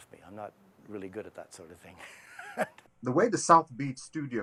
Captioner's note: laughs